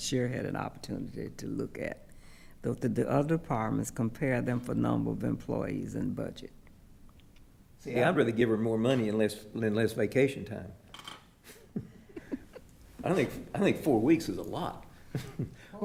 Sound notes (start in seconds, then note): 11.4 attendees chuckling; 15.2 chuckles